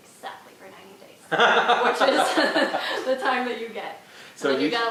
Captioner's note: laughter